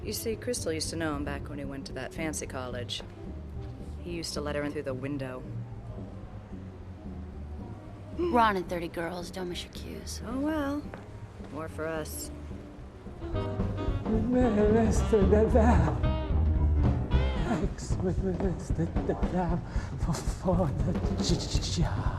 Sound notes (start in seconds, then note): 14.1 stammering